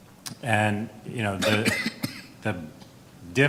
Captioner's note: coughs